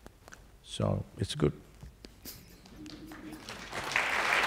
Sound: laughs; applause

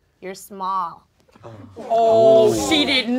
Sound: audience gasps

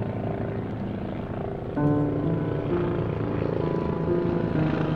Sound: helicopters

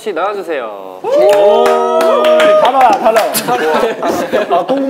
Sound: clapping

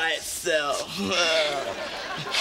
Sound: chuckles

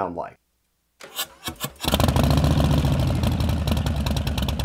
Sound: engine cranks

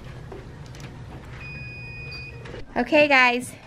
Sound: beeping

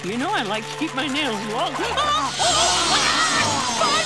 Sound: screaming

